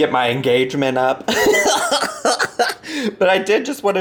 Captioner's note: laughs